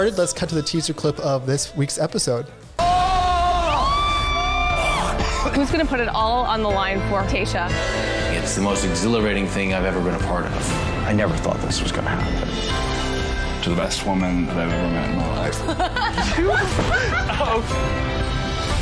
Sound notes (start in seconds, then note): 2.8 screaming; 5.1 man in blue sweater coughing; 15.7 laughing